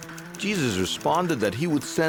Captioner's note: tapping